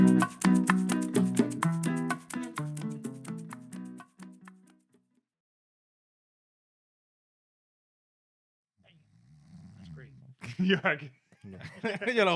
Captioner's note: laughter